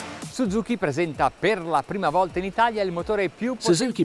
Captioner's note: foreign language